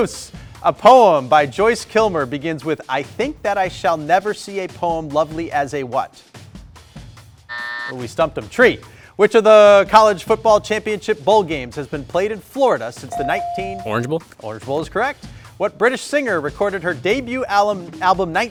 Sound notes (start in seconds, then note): 7.6 buzzer buzzes; 13.2 buzzer dings